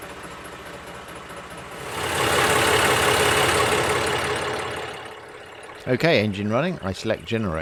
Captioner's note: engine running